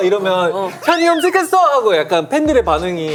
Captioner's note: squeal